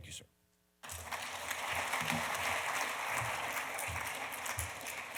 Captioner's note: audience applauding